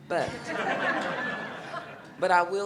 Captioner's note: audience laughing